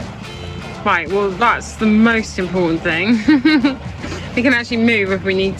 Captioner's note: chuckles